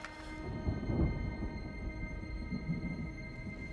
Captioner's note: distant rumbling